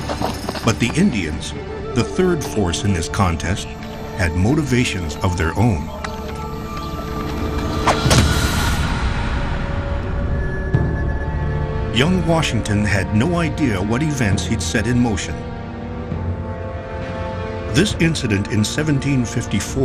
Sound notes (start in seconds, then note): 6.1 dramatic music; 8.0 ax thuds